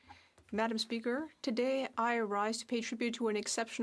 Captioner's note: speaking French